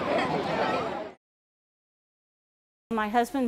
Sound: festival sounds

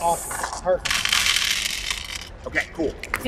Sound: dice clattering

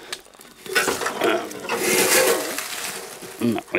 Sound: metal clanging

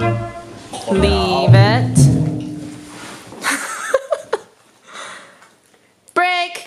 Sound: laughing

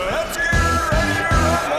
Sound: high-energy music; cheering; male Voice

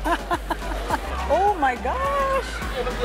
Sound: laughs

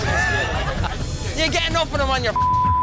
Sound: laughing; beep

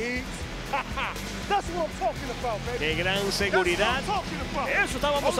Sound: laugh

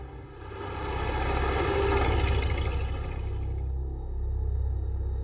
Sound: truck rumbling; suspenseful music

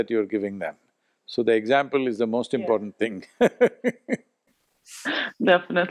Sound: laughs

